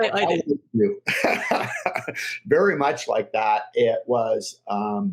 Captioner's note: laughs